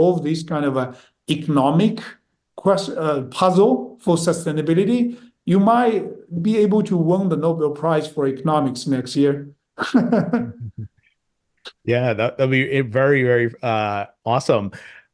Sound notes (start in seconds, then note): 9.8 both laughing